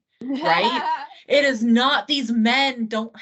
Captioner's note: laughing